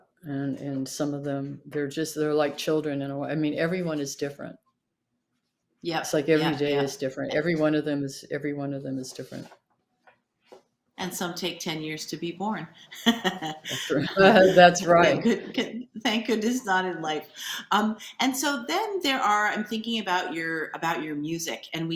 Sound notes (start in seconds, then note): 12.8 laughs